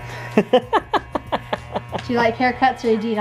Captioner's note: husband laughs